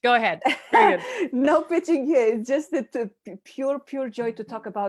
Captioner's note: laughs